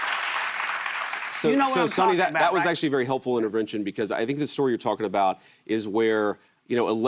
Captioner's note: applause